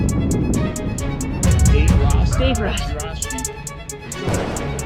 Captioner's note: rider chatting